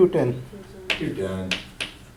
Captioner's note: voiceover